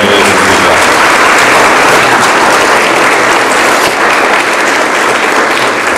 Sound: audience applauds

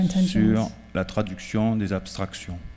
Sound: speaking french

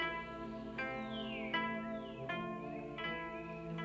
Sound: birds chirping

